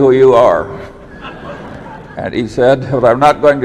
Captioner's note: laughter